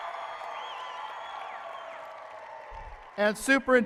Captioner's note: applause and cheering